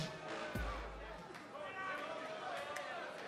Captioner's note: crowd chatter